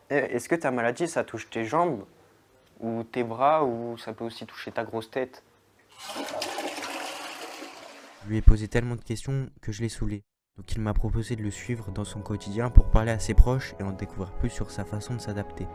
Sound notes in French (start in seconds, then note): 5.9 bruit de chasse d’eau